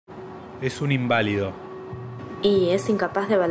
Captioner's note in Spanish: Voz de hombre